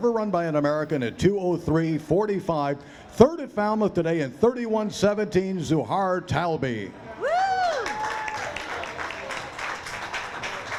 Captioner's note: cheering and applause